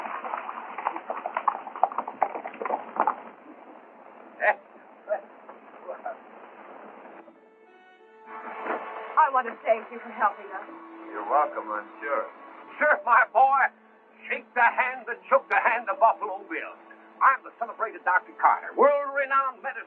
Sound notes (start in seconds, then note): 0.0 horses galloping; 4.2 laughs